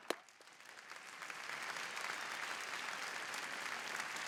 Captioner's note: applause